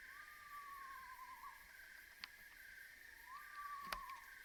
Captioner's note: owls hooting